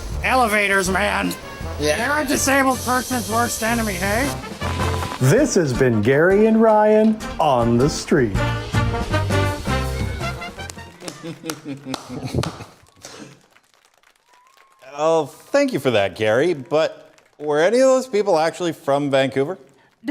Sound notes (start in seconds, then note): 11.7 applause